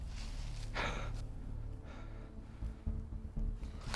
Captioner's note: Max huffing